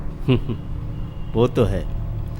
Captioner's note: laughs